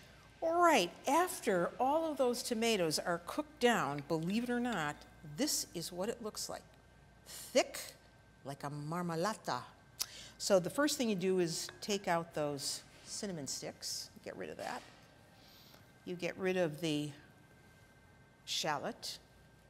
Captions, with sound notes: All right, after all of those tomatoes are cooked down, believe it or not, this is what it looks like. Thick like a (speaking in Italian). So the first thing you do is take out those cinnamon sticks. Get rid of that. You get rid of the shallot.